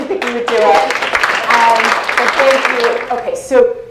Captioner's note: applause